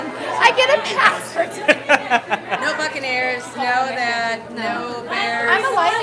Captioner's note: laughter